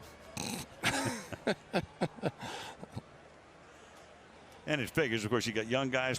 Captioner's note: laughter